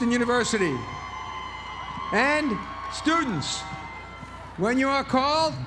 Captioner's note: applause